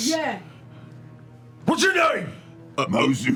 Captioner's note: shouting